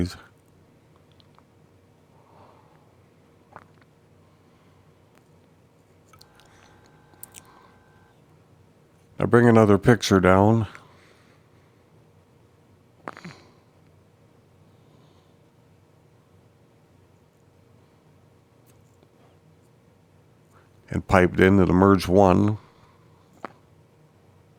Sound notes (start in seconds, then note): 0.2 silence; 11.1 silence